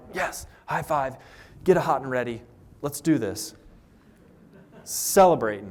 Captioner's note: laughter